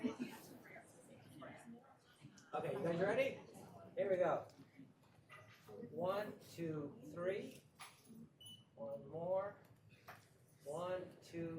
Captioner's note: laughter